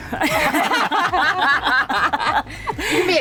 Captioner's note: everyone laughing